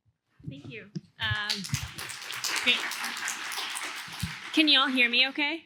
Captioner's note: applause